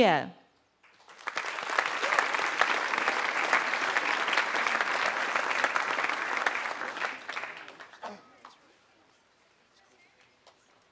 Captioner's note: applause